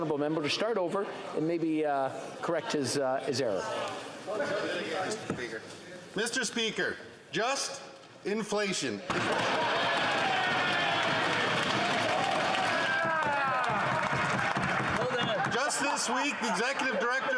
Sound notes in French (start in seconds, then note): 11.2 voix de l'interprète; 15.5 applaudissements